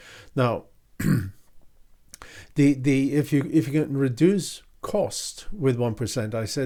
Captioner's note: clears throat